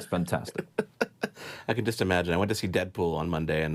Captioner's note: laughs